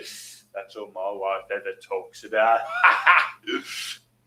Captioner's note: laughs